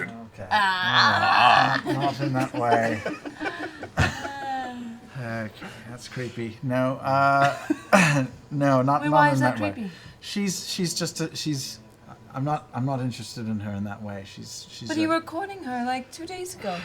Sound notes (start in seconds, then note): 1.8 laughter